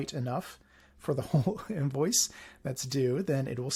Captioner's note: chuckling